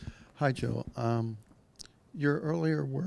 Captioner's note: voiceover